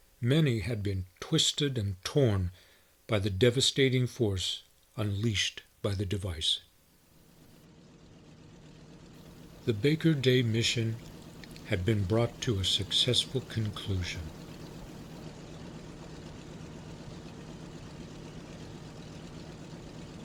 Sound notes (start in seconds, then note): 7.8 aircraft engines sounding